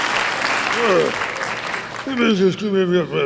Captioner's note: Muppet mutters